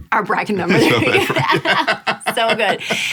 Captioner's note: laughing